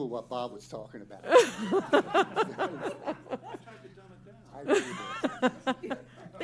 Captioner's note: laughter